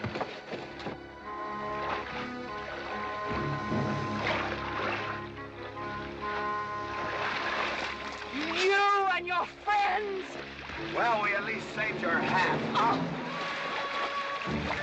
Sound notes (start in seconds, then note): 12.7 scoffing